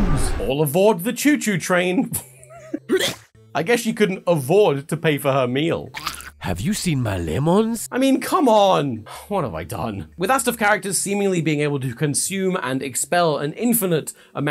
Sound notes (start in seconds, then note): 2.3 laughs